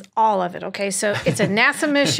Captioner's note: laughs